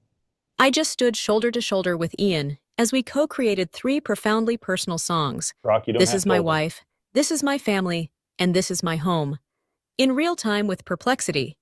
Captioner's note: Grok voice clip plays